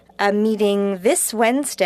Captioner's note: speaking French